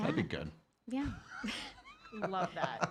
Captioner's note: laughing